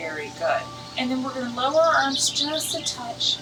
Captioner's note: bird chirps